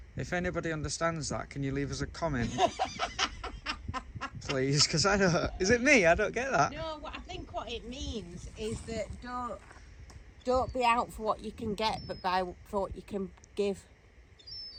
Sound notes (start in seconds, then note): 7.1 laughing